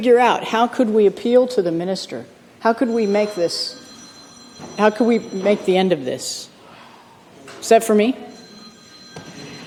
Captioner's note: phone rings